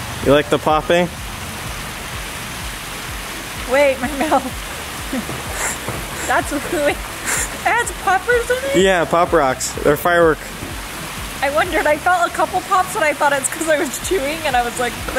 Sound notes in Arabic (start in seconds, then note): 4.7 ضحكات خافتة من الكريستال